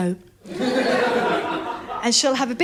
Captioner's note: laughter